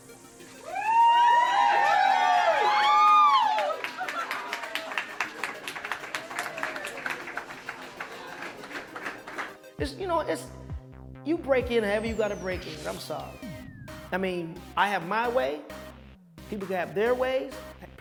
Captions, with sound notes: (cheering) - It's, you know, it's, you break in however you gotta break in, I'm sorry. I mean, I have my way, people got their ways,